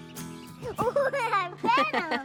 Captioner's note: laughing